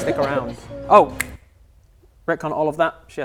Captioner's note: snap